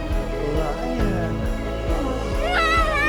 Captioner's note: lion Roars